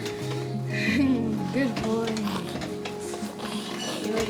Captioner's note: giggles